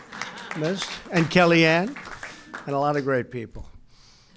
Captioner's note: applause